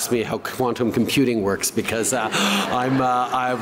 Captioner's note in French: Rires